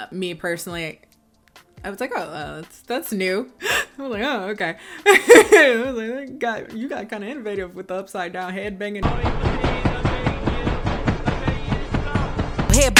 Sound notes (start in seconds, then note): 4.9 laughs; 9.0 head banging